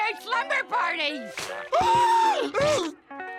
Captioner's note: gasping